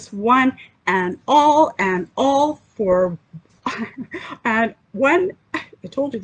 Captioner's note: chuckles